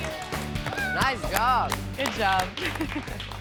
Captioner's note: laughs